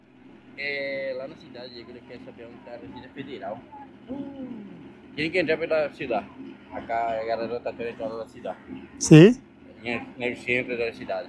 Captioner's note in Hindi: स्पेनिश में बोलना